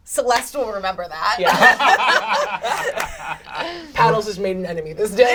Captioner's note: all laugh